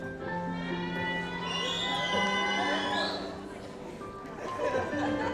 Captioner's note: audience applauds